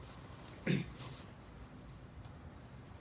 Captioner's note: clears throat